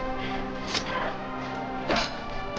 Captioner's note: metal hitting